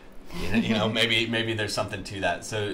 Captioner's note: chuckles